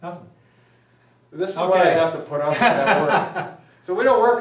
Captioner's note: laughs